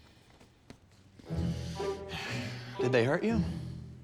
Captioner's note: deep breath